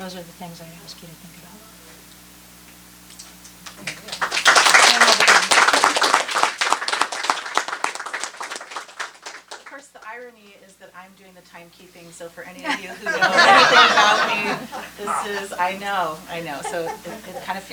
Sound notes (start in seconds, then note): 3.6 applause; 12.6 laughter